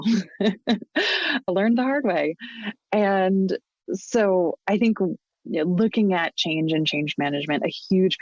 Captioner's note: chuckles